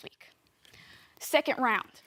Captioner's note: soft breathing